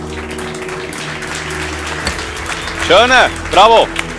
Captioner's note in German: Applaudissements